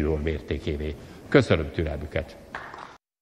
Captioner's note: applause